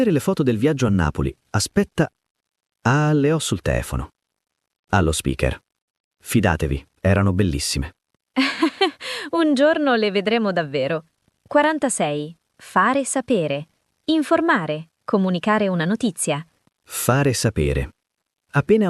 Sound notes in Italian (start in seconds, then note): 8.4 risate